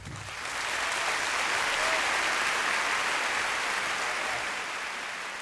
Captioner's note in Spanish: aplausos